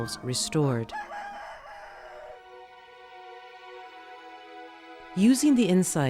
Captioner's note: serene music; cock crowing